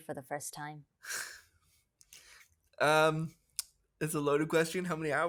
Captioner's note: sighs